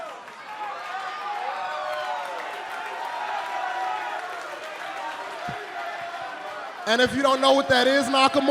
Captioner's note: crowd cheering